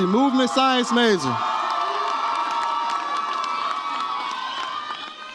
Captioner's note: audience cheers